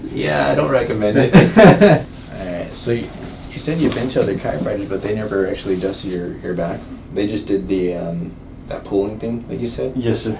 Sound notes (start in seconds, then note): 1.1 both laughing